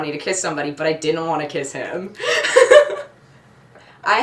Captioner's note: laughs